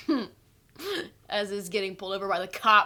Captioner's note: Katie chuckles